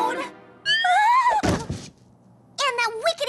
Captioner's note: whimpers